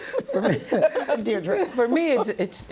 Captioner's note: laughter